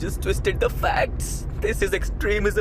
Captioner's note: mockingly